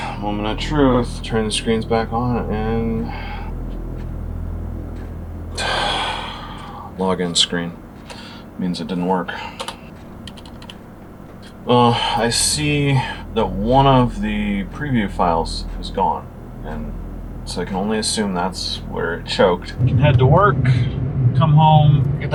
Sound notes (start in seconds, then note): 5.5 big sigh; 9.4 keyboard clicking